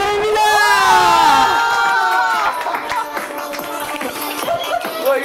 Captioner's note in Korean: 열렬한 환호